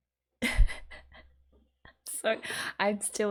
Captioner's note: laughs